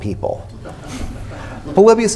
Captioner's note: laughter